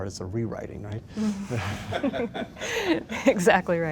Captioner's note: laughter